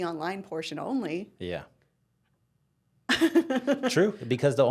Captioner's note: laughing